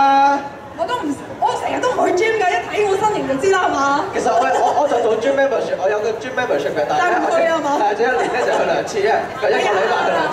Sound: man and woman speaking in Chinese

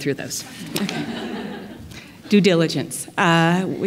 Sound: laughter

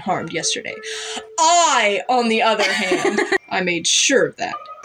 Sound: laugh

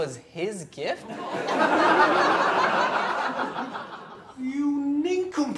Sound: audience laughs

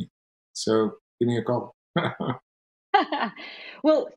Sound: laughs

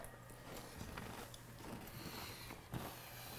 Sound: chewing

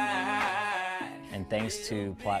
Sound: in spanish

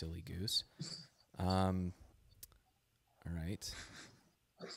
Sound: laughs

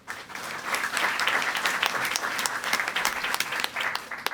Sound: audience applauding

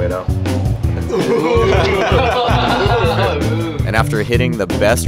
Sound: everyone laughs

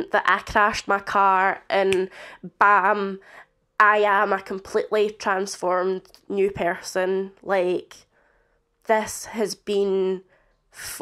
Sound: click

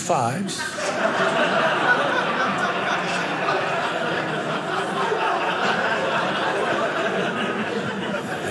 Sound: audience laughing

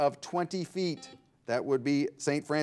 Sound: bell rings

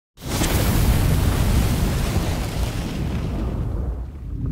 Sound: flames blasting

